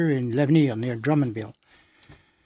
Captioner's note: speaking French